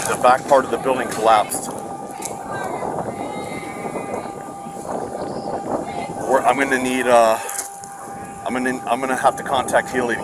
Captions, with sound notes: the back part of the building collapsed. (hollering) I'm gonna need a, I'm gonna have to contact Heli